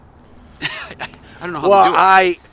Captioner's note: chuckling in disbelief